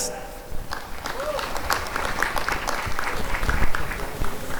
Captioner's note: applause and cheering